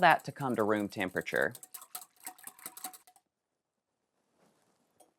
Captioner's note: whisk tapping